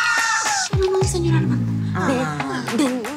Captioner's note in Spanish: Exclamaciones